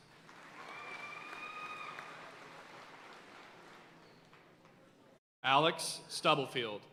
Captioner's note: audience cheering and applauding